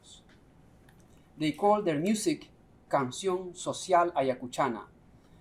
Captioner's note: non-english speech